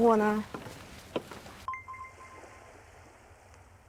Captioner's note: silent